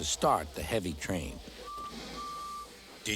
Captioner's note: toot toot